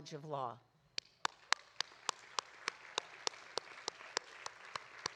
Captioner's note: audience applauding